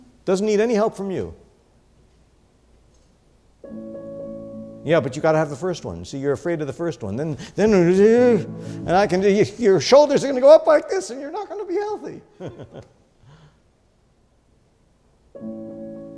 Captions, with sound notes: Doesn't need any help from you. Yeah, but you've got to have the first one. See, you're afraid of the first one. Then. Your shoulders are gonna go up like this and you're not gonna be healthy (laughs).